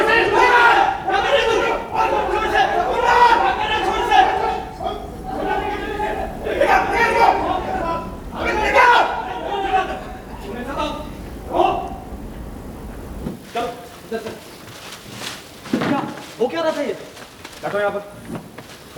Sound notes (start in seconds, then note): 4.6 distant Shouting